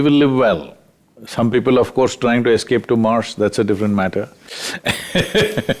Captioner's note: laughs